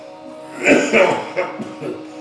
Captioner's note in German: Husten